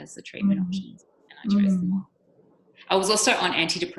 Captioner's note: microphone cutting out